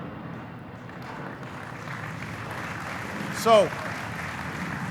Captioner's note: applauding